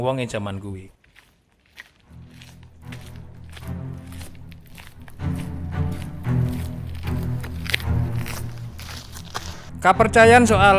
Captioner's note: footsteps